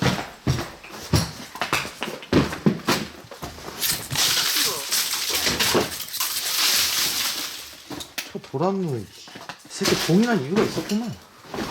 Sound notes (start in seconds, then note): none